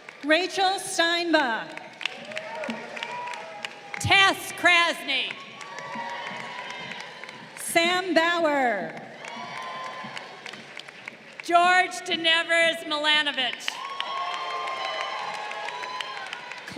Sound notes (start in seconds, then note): 0.0 crowd cheering; 2.1 crowd applauding; 5.5 crowd cheering; 9.3 crowd cheering; 13.4 crowd cheering